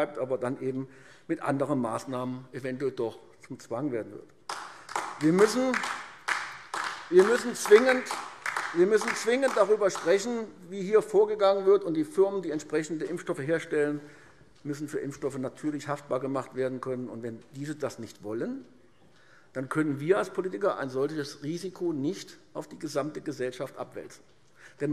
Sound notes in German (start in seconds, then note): 4.4 Beifall AfD